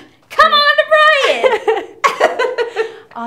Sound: laughs

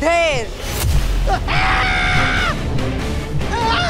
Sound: shouting

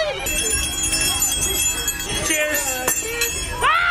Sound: bells jingling

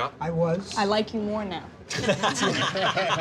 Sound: laughter

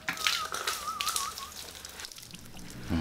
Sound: whisteling

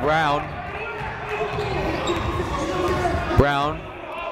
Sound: shouting

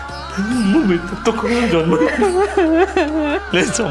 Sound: crying

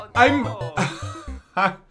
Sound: laughs

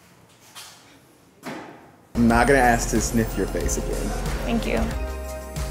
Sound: foot stomps

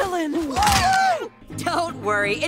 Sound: sound of bones snapping

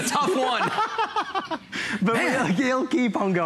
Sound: laughter

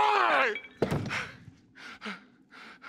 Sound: table clatters; panting

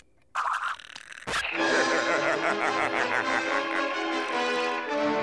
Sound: laughing

